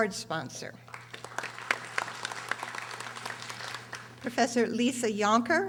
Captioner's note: audience applauding